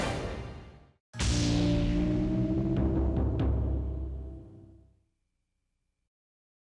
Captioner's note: lightning crackles; powerful music